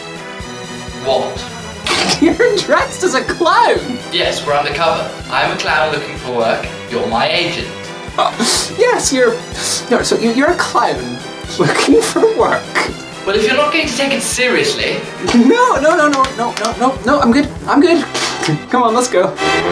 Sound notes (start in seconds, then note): 0.0 laughs; 11.4 laughs